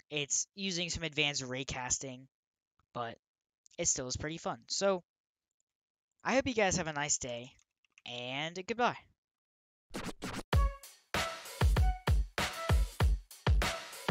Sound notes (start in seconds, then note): 9.9 record scratch; 11.1 upbeat music playing